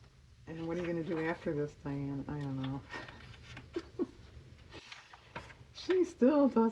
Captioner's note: laughs